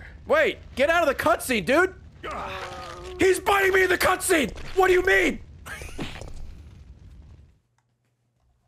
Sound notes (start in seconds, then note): 7.0 laughs